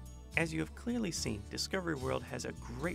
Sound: voiceover

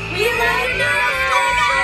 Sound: audience cheering

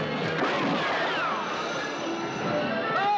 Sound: gun blasts; dramatic music; man yells

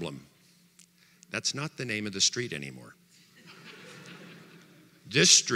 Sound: audience laughter

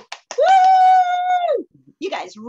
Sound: cheering

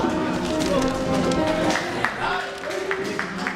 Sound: chattering

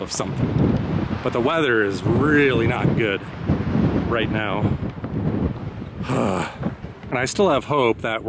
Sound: groan of frustration

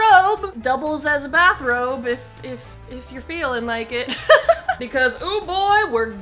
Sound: laughs

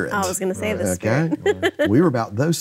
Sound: laughing

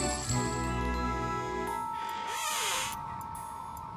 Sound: hinges squeaking

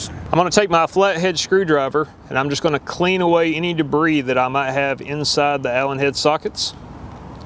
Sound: none

